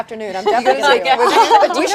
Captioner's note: crowd chatter